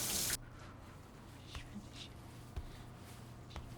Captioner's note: Esther muttering to herself